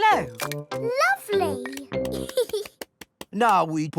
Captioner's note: giggles